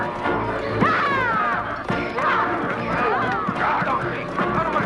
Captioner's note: Hundra shouting